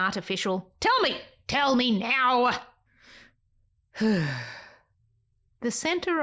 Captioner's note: sigh